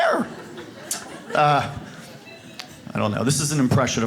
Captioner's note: audience laughs